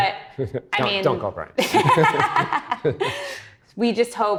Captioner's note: laughs; both laughing